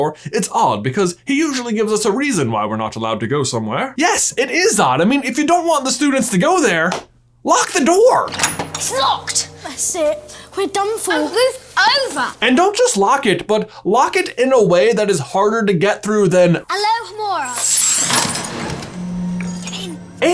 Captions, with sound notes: 'It's odd because he usually gives us a reason why we're not allowed to go somewhere.'" Yes, it is odd. I mean, if you don't want the students to go there, lock the door. (door handle clangs) - It's locked. - That's it, we're done for. - Oh move over. - And don't just lock it, but lock it in a way that is harder to get through than... - Alohomora. (magic whooshing and lock clinking)